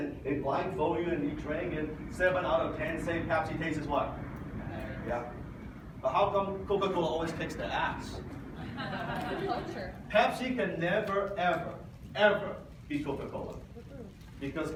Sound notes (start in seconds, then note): 8.5 audience laughs